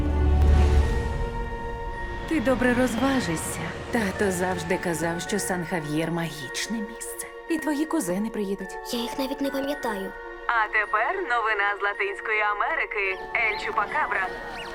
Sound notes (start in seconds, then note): 10.4 woman 2 on radio